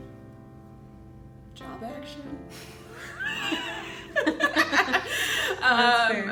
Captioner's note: laughter